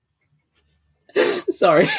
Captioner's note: laughing; laughs